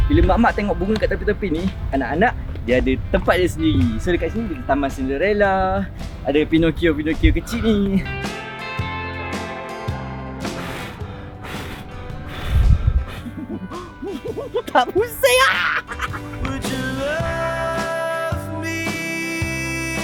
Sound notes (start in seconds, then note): 8.0 background music; 10.4 blow; 10.5 laugh; 16.4 laugh; 16.8 background music